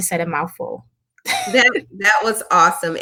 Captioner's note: laughing